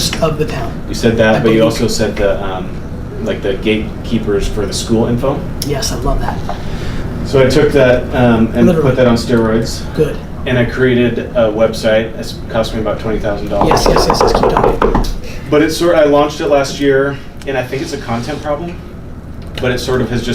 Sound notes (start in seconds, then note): 13.5 knocking